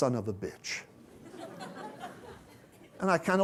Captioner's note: laughter